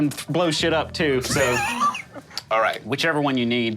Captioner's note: laughing